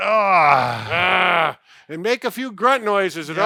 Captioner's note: grunting